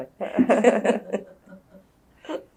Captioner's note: laughter